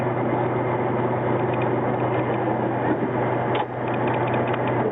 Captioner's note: engine continues rumbling